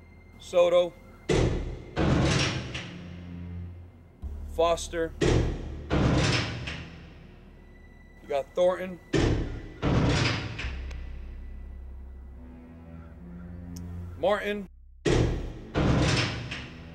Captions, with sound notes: Soto. (clanking) Foster. (clanking) You got Thornton. (clanging) Martin. (clanking)